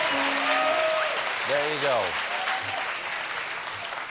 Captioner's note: piano riff; cheers and applause